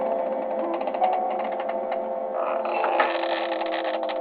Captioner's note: door creaking